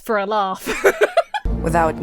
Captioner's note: laughs